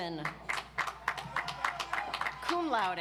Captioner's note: audience applauds